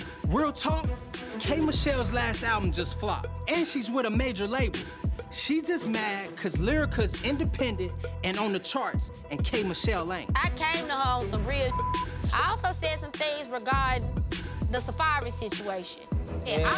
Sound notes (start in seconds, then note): 11.6 beep